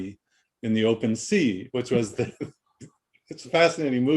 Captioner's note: chuckles